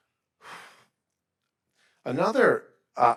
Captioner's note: sighing